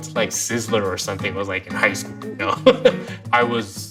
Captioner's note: laughs